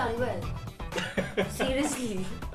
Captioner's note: laughing